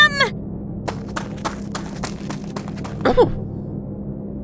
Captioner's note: running